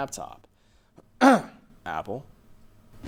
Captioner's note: clears throat